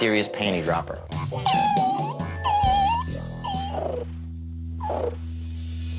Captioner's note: warbler noises